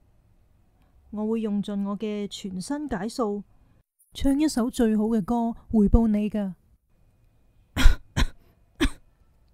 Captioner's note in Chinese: 咳咳